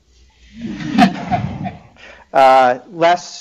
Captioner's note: laughter